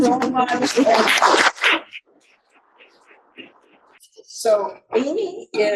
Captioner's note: audience applauding